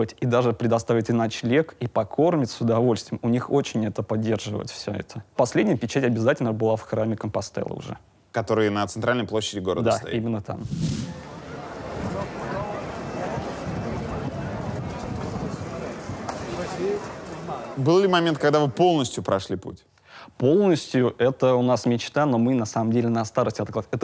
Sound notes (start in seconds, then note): 11.6 street noises and voices